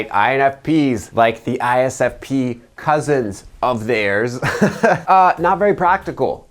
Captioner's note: chuckles